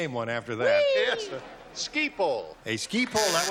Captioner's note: buzzer